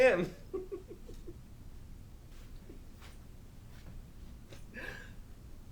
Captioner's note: Captain Brookes giggles